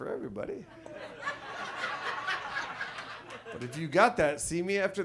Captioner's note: audience laughs